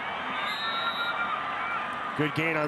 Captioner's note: referee blows whistle